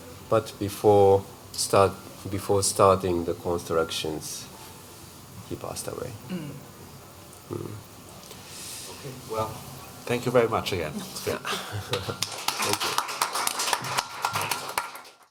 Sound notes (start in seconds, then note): 11.9 applause